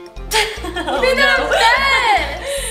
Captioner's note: girls laughing